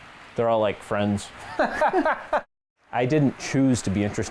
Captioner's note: laughter